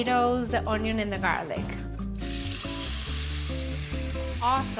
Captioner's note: sizzling